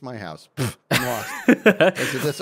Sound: laughs

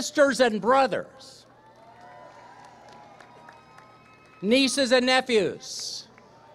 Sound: applause, cheering; applause

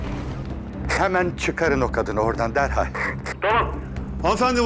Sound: radio police voice

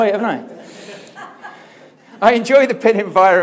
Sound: audience laughing

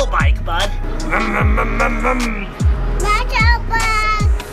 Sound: imitating car revving

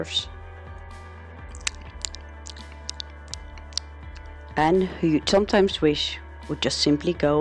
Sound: sounds of smacking

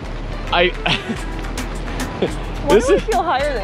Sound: chuckling

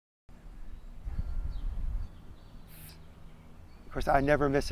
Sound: birds chirping

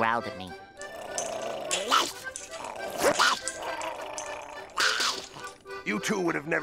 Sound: growling

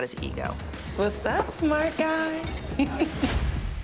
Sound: giggles

